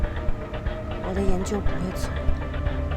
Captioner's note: in Mandarin